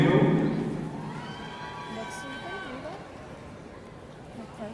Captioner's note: audience cheering